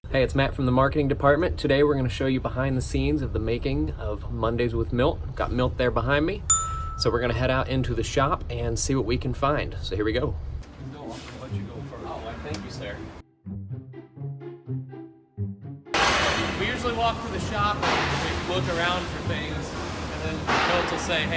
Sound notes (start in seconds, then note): 6.5 arrow dings; 12.9 playful upbeat music